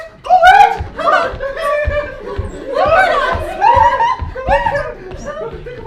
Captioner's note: both squeal with joy